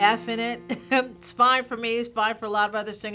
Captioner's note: laughter